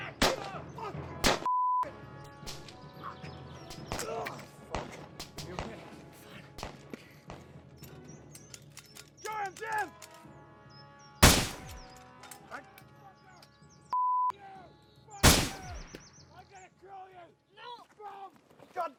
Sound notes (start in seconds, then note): 15.2 gun fires